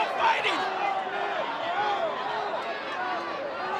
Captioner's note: crowd yelling